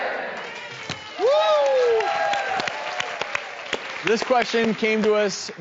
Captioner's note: cheering; audience applauds